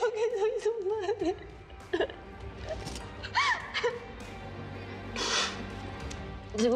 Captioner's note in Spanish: Sollozos